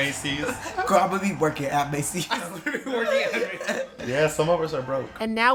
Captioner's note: laughter